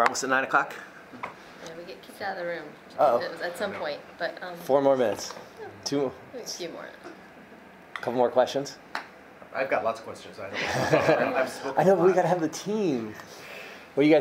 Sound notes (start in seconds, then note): 10.6 many laughing